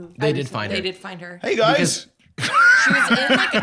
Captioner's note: laughs